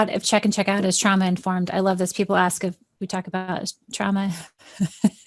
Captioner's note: chuckles